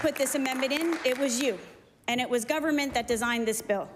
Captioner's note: applause